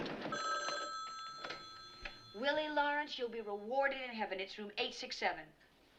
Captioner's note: rings